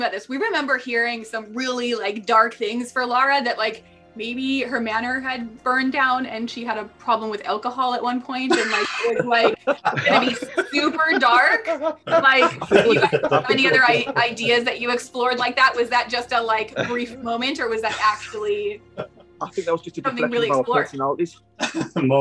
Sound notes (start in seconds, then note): 12.4 laughing